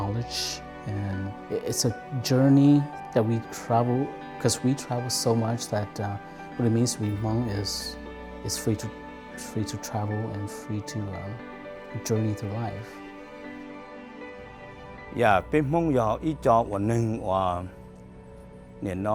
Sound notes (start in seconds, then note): 15.7 speaking Hmong